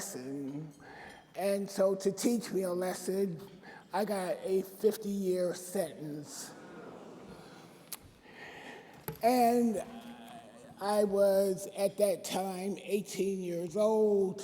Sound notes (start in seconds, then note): 6.1 audience groans